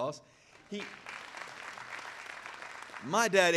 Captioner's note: audience applauding